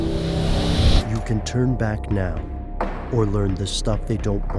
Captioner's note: voiceover